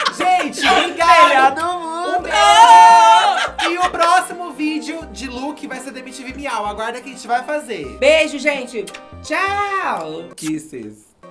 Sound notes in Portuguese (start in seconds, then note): 0.0 risos; 3.2 risos